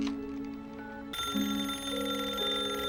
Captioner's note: rings